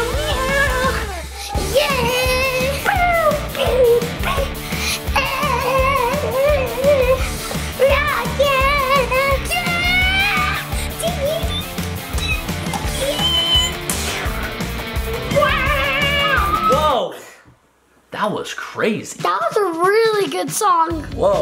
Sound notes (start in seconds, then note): 3.5 imitates electric guitar